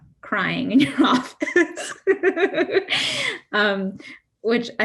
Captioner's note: laughing